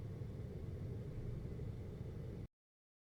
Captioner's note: air conditioning